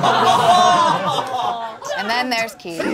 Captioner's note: all laughing